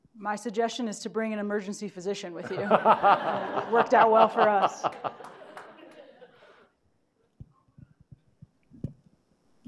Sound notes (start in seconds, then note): 2.4 laughing; 2.4 audience laughing